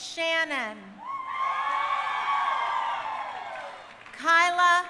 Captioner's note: crowd cheering